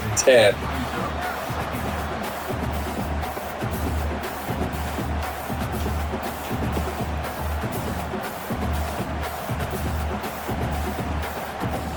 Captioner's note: crowd Noises